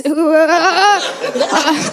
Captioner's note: laughter